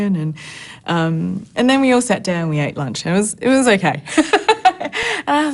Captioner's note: laughs